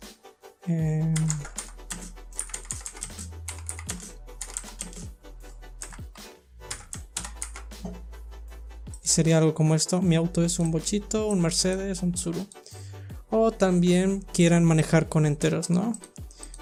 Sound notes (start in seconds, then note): 2.3 typing